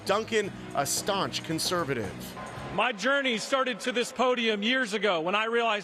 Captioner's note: cheering and applause